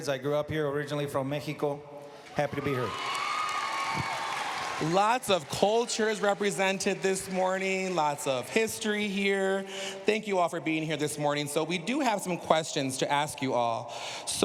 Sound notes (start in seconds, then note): 2.2 cheers, applause